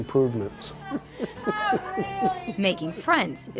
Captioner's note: laughing